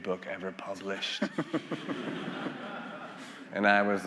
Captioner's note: attendees laughing